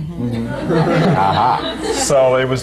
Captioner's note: laughter